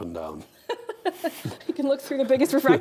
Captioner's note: laughing